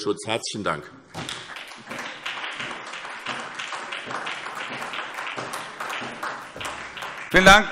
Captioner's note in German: Beifall SPD und vereinzelt BÜNDNIS 90/DIE GRÜNEN